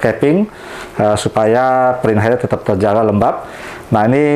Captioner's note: inhale